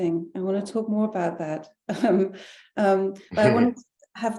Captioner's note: chuckling